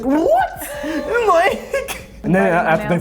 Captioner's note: laughing